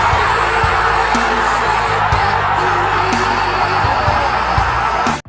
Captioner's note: all cheering